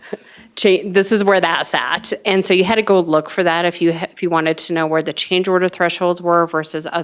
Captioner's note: laughter